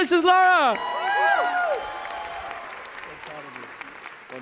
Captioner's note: cheering